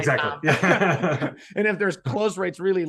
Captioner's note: laughing